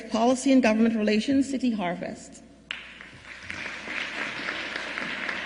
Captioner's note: applause